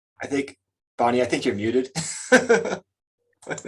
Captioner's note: laughs